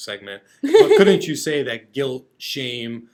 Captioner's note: laughing